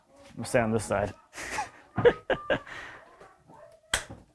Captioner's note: laughs